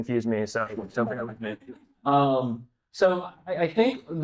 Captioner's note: speaking faintly